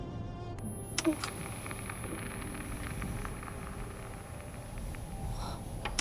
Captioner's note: high-pitched tone ringing; static buzzing